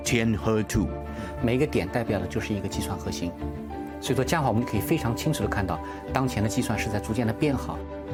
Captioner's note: speaking Chinese